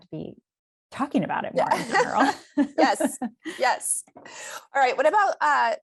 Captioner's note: laughter